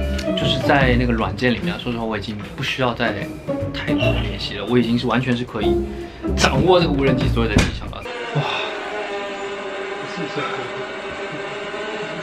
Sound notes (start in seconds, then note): 1.4 confident